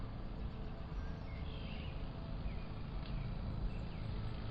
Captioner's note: birds twittering